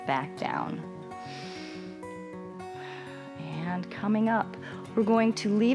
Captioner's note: inhales